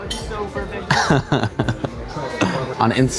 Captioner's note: laughs